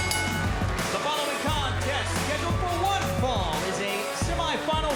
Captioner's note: bell ringing